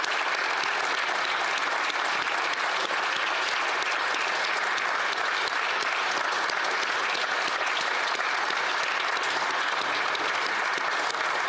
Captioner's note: applause